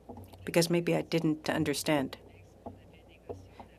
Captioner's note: speaking french